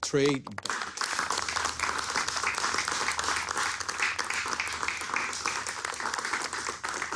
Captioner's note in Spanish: Aplausos